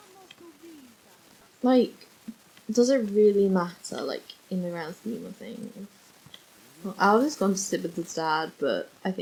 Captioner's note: laughs